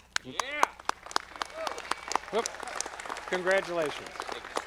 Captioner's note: audience clapping